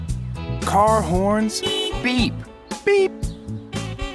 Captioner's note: car horn beeps